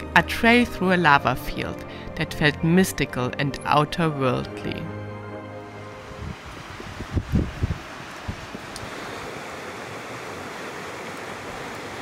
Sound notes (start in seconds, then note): 5.8 air whooshing; 6.3 water sloshing